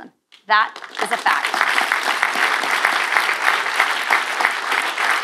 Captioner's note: audience applause